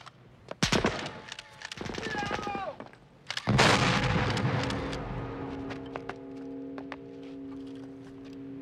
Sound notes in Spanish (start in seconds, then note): 1.1 shutter clicking; 5.0 bell clangs